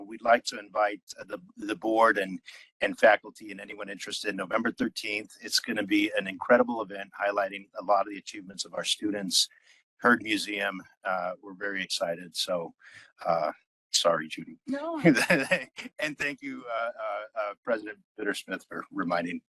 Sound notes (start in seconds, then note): 15.0 laugh